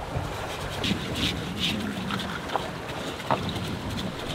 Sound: scrubbing sounds

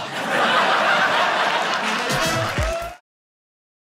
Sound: audience cheering

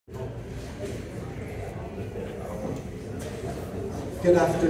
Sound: background Discussion

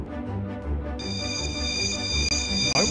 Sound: bell rings

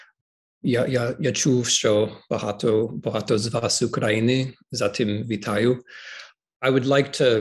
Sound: speaking in Ukrainian

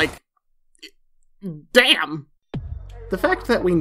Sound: stammers

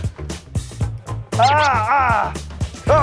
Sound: grunting

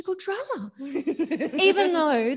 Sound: laughs

